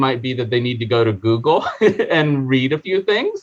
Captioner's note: chuckling